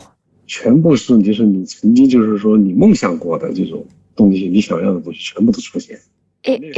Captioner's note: speaking Mandarin Chinese